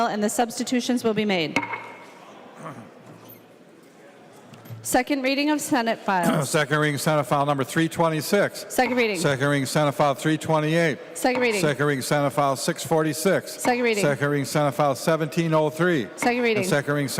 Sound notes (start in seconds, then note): 8.8 gavel